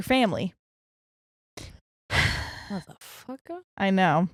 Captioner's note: whispers; sighs